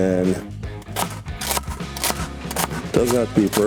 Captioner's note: knife thuds